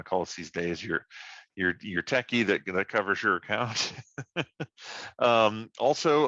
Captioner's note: laughs